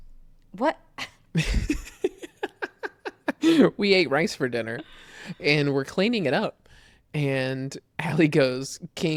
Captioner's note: laughs